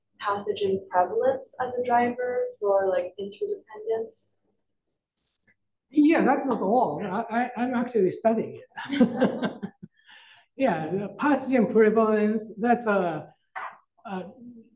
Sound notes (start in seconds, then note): 8.8 chuckles